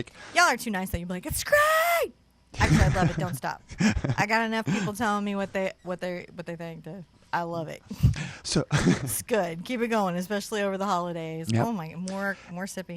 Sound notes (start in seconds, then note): 2.6 laughs; 8.7 laughs